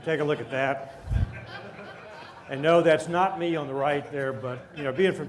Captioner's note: laughter